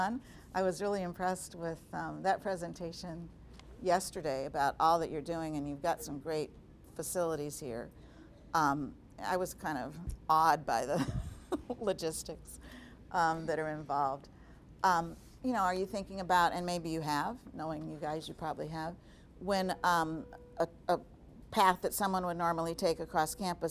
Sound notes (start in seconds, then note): 12.3 laughing